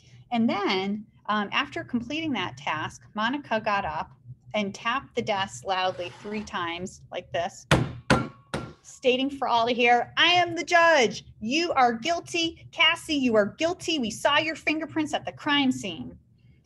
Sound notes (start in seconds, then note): 7.7 desk tapping